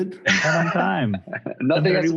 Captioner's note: all laughing